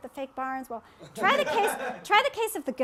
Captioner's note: laughter